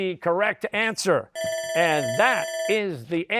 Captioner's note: bell ringing